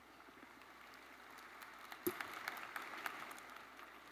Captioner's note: attendees applauding